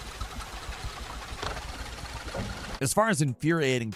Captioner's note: engine rumbling